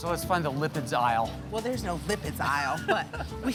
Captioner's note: laughs